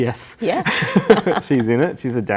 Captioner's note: laughing